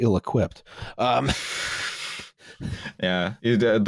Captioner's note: laughter